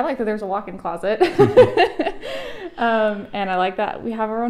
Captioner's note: laughs